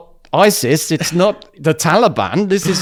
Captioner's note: laughs